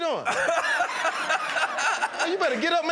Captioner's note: laughter